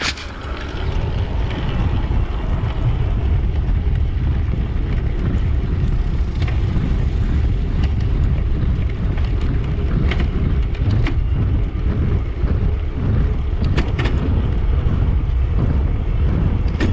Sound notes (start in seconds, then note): 11.4 gears shifting